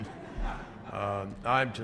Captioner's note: laughter